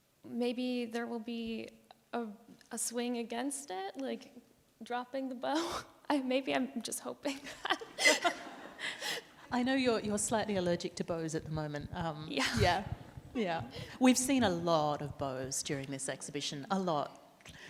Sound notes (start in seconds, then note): 5.2 chuckles; 7.7 panelists and audience laugh; 12.2 laughs